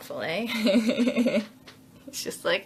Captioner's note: laughs